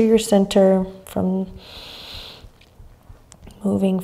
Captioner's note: inhaling deeply